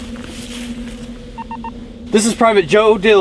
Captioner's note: communicator beeps